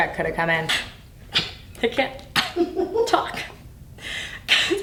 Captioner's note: coughs